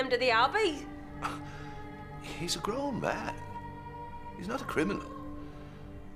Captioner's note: scoffs